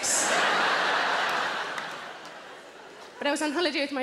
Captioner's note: audience laughs